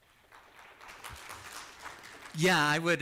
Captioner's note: applause